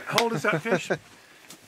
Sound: slapping five

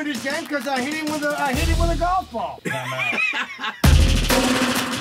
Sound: laughter

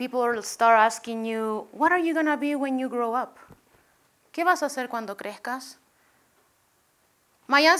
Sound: spanish

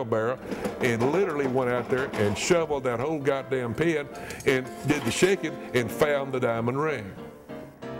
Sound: profoundly angry

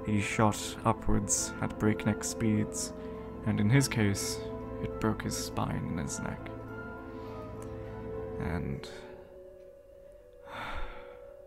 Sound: sigh\

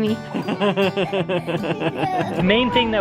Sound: laughing

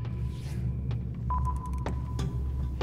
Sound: sonar beeping

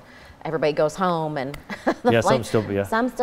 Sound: laughing

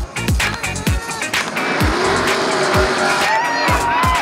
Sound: engines roaring

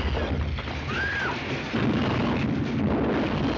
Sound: screaming

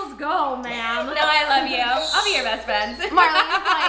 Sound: laughing

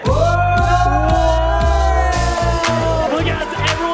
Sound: background chanting

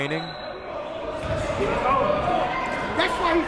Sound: whistle blowing

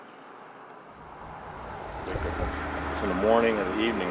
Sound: car engine roars

